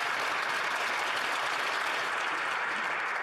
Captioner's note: some Applause